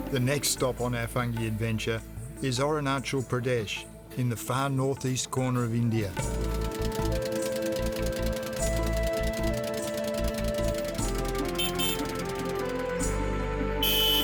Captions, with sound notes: The next stop on our fungi adventure is Arunachal Pradesh in the far northeast corner of India. (boat engine sputtering) (dreamy music continues) (vehicle horns honking)